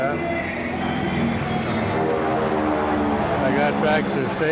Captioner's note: planes droning overhead